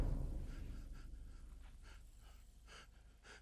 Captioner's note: sobbing